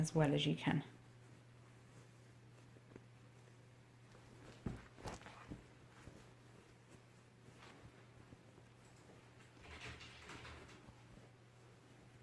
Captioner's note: rustling